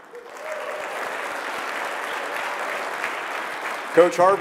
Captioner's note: audience clapping